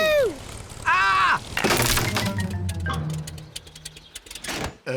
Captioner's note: crunching